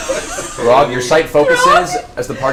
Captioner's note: laughs